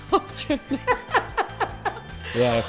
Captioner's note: laughing